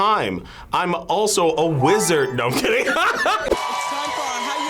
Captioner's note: laughs